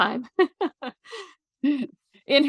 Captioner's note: chuckles